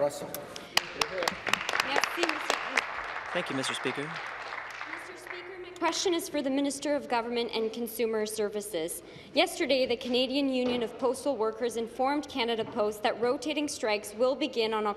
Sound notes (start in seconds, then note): 0.0 applause; 3.7 applause